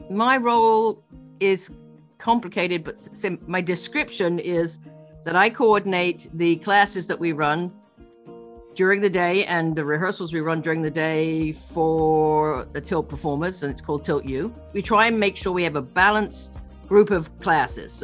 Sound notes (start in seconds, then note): none